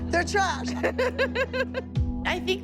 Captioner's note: laughing